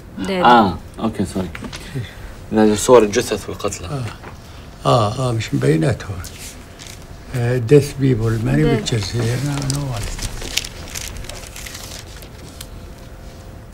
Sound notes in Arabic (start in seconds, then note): 2.5 يتحدث لغة أجنبية